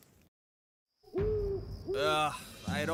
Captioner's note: owl Hooting